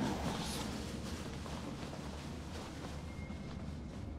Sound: sheets rustling

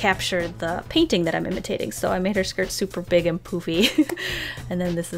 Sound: laughs

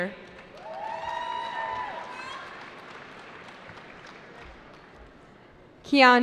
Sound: cheering

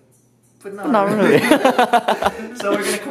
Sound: both laugh

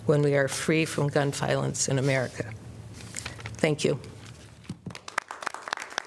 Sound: applause

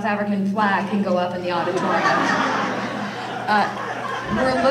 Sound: audience laughter

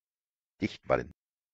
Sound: fast Pronunciation

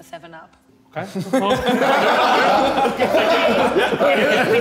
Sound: all laughing

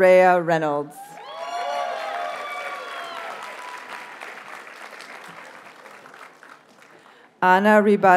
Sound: audience cheers and applauds

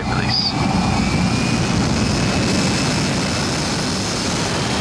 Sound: plane whizzing

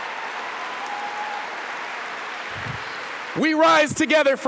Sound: applause

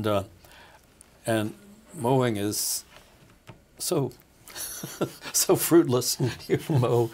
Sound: laughing

